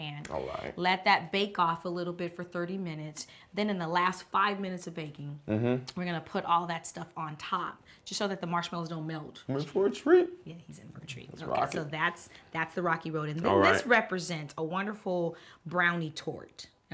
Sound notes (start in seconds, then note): none